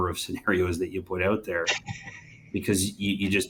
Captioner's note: laughs